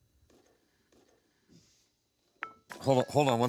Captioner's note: phone ringing